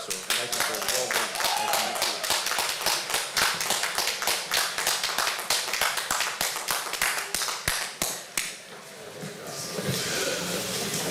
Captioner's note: applause